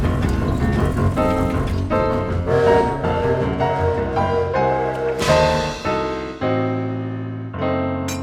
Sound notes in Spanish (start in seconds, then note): 3.6 silbato de alarma